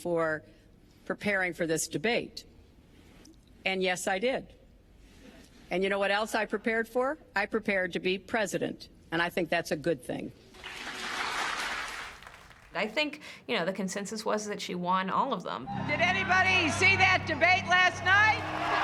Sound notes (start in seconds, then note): 10.7 audience clapping